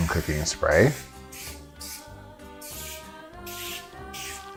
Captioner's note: spraying sounds; soft music